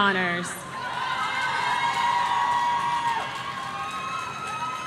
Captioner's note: audience cheering